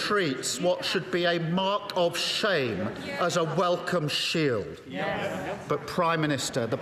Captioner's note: crowd Noise